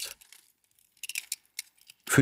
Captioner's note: rotating noise